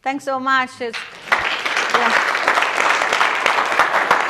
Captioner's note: applause